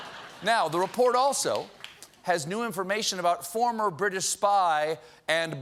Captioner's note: laughter